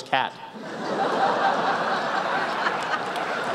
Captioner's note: laughter